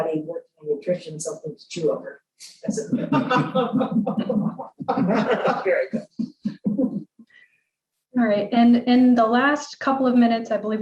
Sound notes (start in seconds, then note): 2.9 laughter